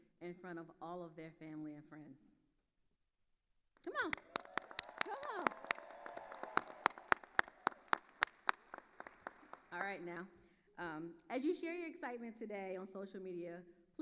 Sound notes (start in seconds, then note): 5.6 attendees cheering and applauding